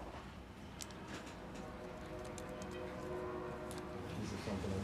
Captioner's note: distant train horn blowing; indistinct chatter